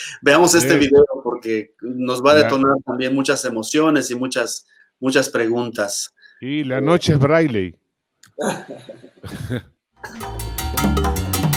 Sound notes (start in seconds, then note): 8.4 Risas